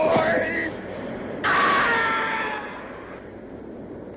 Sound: screaming

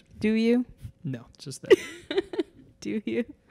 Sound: laughs

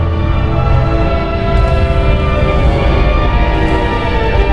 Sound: tripod horn

